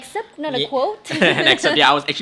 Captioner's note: both laughing